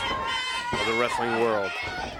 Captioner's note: crowd chatter